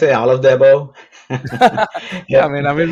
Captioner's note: both laugh